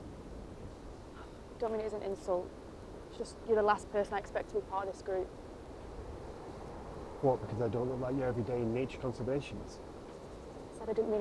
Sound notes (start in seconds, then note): none